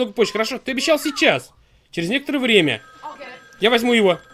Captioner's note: telephone rings